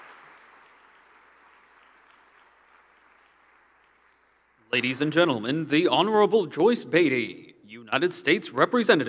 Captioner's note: applause